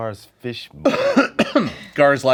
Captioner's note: coughing